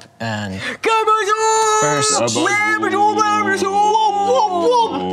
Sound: excited grunting

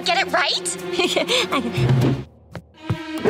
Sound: chuckles

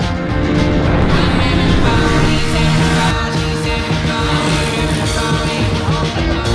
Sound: motorcycle engine revving

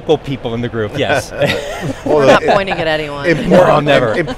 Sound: laughs

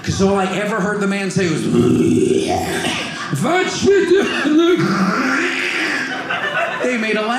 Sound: clears throat

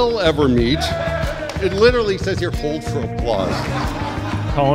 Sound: laughter

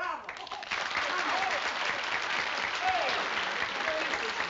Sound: applause

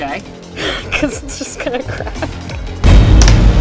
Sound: cracking sounds

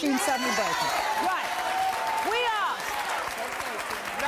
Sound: audience cheers and applauds

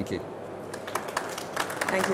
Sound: audience applauds

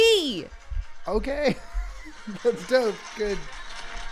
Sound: nervous laugh

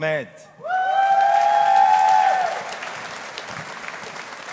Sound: audience applauding

